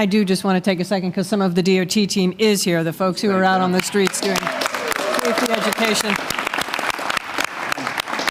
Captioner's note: applause